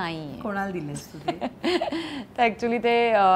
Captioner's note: Chuckles